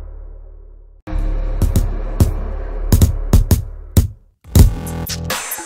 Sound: sound of Punches

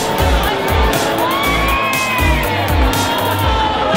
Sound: yelling

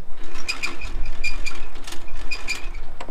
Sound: retrieving boat sounds

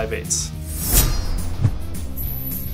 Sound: blade slicing; upbeat music

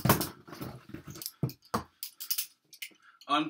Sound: clickity clack crick crack

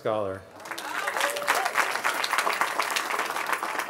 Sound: cheering

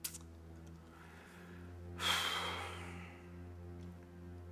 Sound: exhales

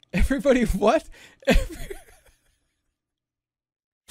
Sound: wheezing

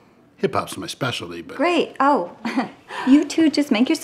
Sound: giggles

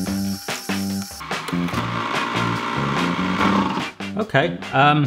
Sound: funky music; straining motor sounds

